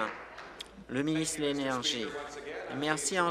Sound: applause

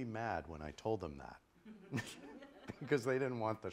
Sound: laughter

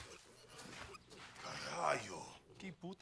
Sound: speaking in Spanish

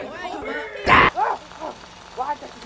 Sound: shrieks crazily

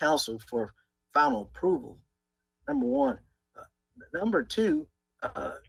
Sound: ~audio distortion~

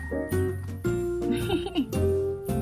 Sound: laughter

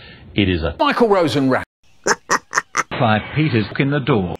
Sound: Bart laughs

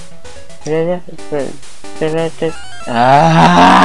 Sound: humming

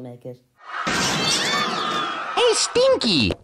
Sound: crowd Screaming

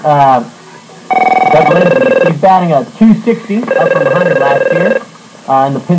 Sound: phone ringing

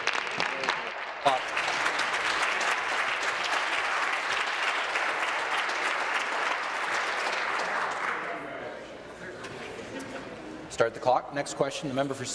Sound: applause

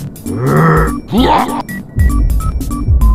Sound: vomits

